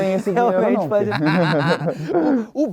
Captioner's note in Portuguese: risadas